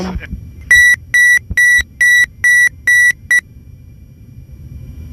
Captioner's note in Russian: сигнал отключения АП